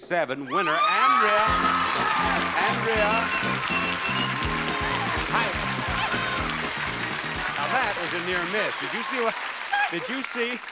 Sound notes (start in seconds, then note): 1.4 audience cheering; 6.0 upbeat music